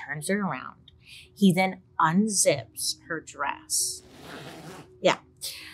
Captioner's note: zipper slides